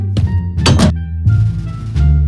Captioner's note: footsteps; door closes